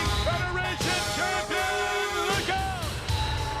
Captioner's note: truck honks